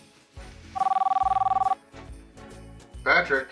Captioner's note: phone rings